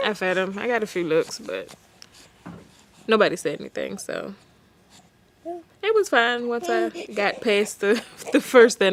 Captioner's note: laughs